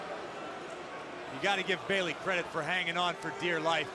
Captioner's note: crowd chatter